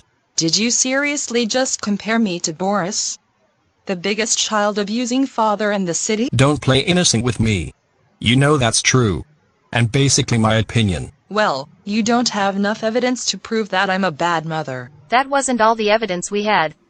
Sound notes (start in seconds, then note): none